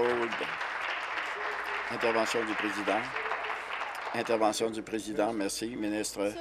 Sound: applause

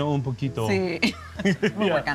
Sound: speaks foreign language; laughing

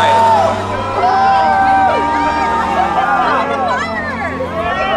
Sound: crowd cheering

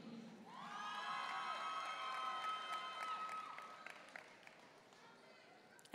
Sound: audience cheering and applauding

